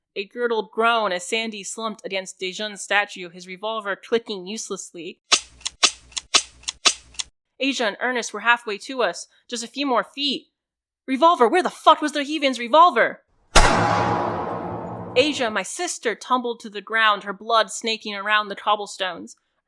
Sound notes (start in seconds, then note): 13.5 isolated, amplified distinct, steady gunfire for the cracks; 13.6 two bodies falling and gunfire